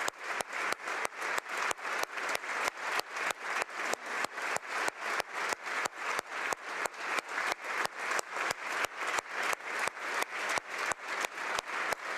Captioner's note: applause